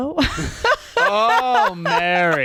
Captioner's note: laughing